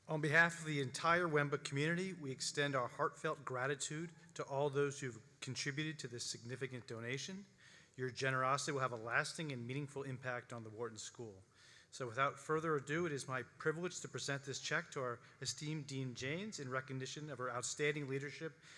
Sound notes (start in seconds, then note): none